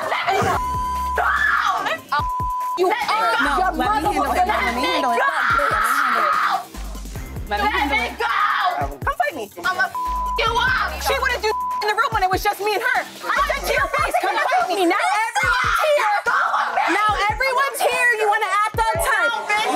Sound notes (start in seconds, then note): 2.2 beep; 9.8 beep